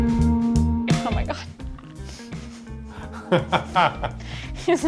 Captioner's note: laughing